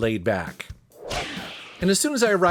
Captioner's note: air whooshing